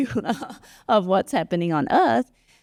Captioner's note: laugh